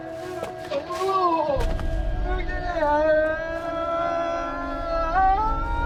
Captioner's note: loud moaning